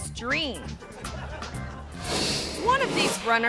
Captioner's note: audience laughing; graphic whooshes